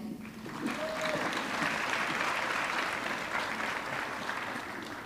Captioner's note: audience clapping